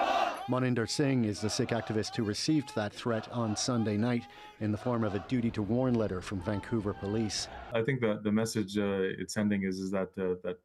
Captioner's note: shouting